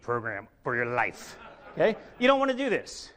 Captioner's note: audience laughs